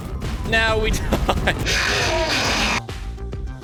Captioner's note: laughing